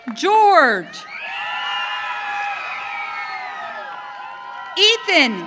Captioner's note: audience cheering